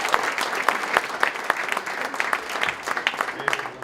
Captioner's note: applause